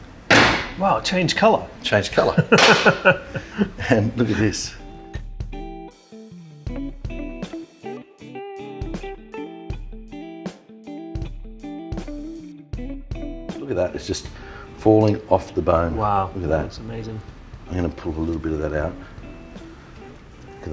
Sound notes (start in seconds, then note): 2.2 laughing